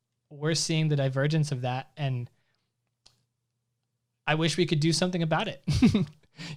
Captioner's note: laughs